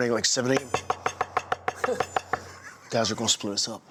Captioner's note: knuckles rapping